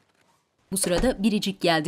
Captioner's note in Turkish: Kapı sesi